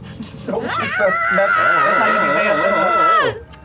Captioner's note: screams